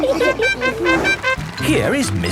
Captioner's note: all laughing; horn tooting